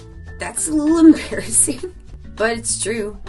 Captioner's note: chuckles